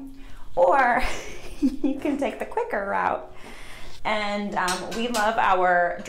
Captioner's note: laughs